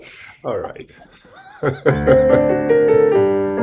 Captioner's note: laughs